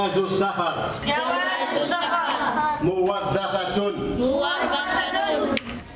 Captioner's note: audio in Arabic